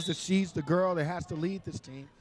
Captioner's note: referee whistling